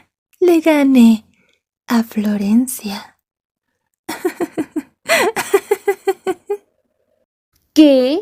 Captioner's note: laughs